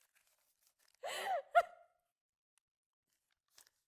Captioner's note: sobbing